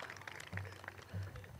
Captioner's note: group claps